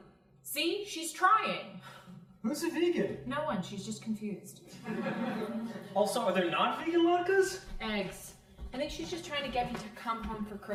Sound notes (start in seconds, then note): 4.8 crowd laughing